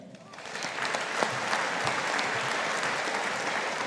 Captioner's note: audience applauding